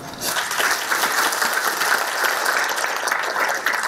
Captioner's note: applause